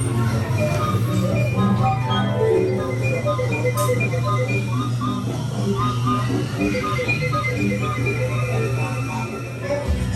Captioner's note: teapots blowing musically